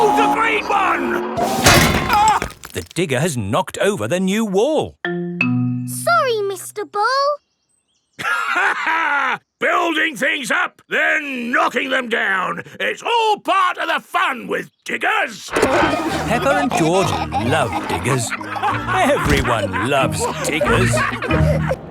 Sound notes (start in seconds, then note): 8.2 laughs; 15.5 peppa and george laughing